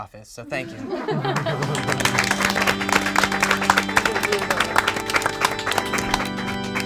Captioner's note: group claps; organ music